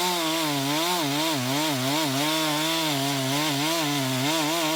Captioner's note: saw buzzing